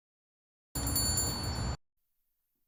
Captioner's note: shopkeepers bell jingles